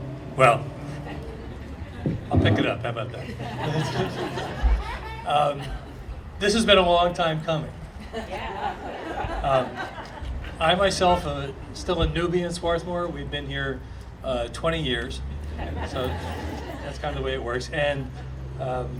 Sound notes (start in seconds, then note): 4.7 audience laughing